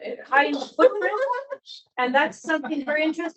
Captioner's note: laughing